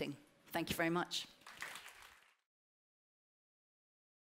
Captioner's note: applause